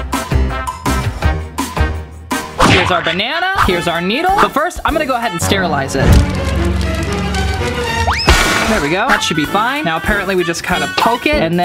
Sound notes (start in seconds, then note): 5.4 suspenseful music; 6.1 crash